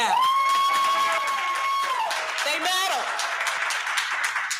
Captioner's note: cheering